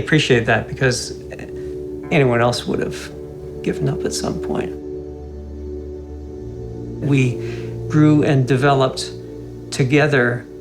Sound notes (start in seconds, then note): none